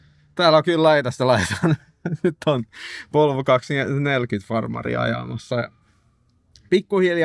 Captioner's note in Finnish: naurua